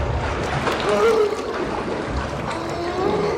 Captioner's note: man splashing, gasping for air